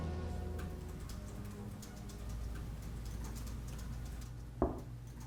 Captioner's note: keyboard keys clacking; Claire knocking